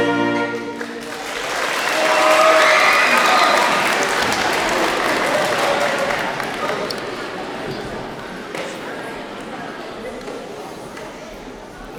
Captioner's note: applause